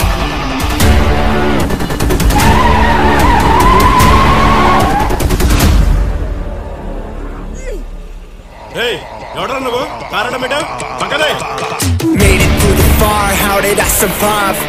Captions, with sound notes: [vehicle screeches] Hey, Who are you? Why did you park your car in the middle? Keep it away. 'Made it to the far, how did you survive?'